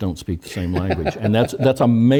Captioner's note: laugh